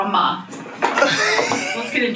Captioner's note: laughs